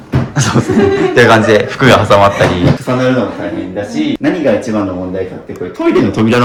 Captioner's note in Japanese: 笑い